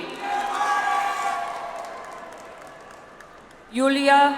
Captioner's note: audience applauds